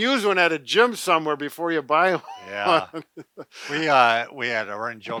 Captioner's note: laughs